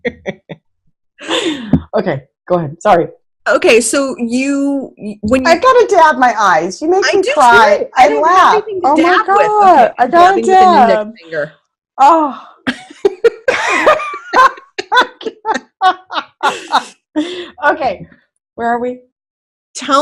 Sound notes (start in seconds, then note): 17.8 laughing